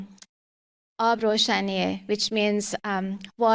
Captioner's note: speaking Farsi